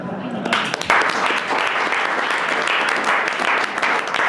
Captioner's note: all applauding